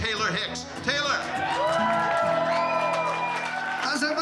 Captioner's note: crowd cheering, clapping